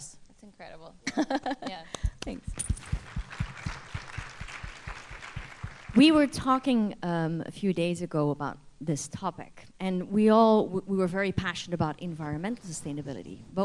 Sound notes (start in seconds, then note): 1.0 laughter; 2.7 applause